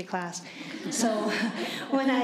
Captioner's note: laughter